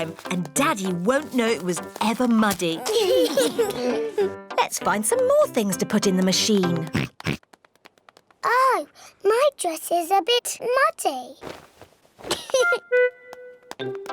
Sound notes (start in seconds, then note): 6.9 oinks; 12.3 giggles